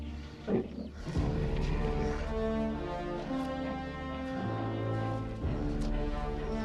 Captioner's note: bear grumbles; strong grim music